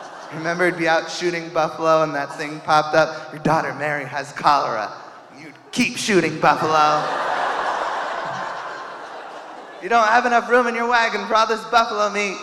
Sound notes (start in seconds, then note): 5.5 audience laughing